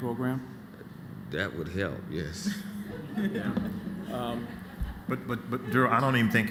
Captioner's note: laughter